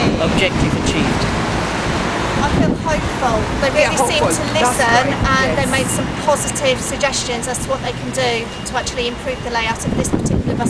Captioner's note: cheers from protestors